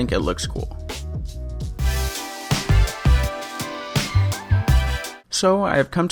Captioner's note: epic "DUNNNNN" Sound Effect